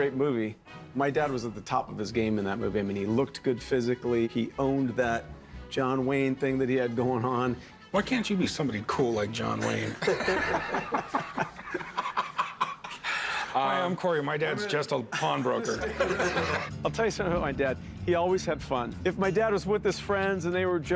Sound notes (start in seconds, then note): 9.6 laughter